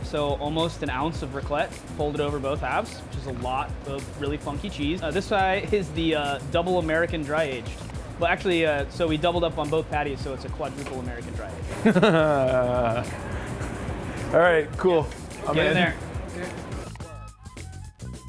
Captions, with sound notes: so almost an ounce of raclette, folded over both halves, which is a lot of really funky cheese. This side is the double American dry-aged. Well, actually, we doubled up on both patties, so it's a quadruple American dry-aged. (laughing) - Alright, cool. - Get in there.